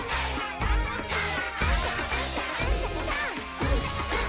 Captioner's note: japanese chanting continues